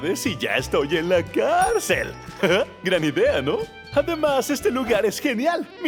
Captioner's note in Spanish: none